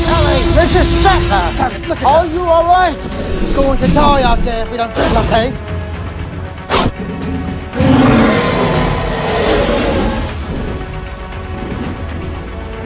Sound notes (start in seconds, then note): 6.7 T-Rex growls